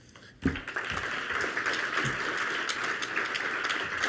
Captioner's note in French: Applaudissements